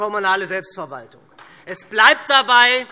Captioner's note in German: Beifall SPD